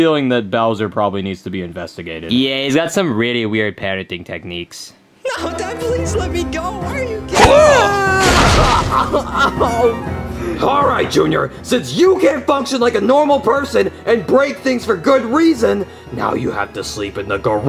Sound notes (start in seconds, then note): 5.8 tense music; 7.3 screams